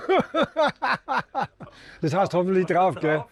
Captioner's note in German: gelächter